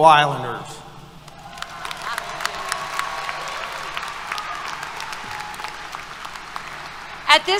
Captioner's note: applause, Cheers